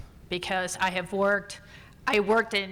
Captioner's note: none